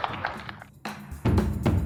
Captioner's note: audience applauds